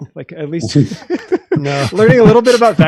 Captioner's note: laughing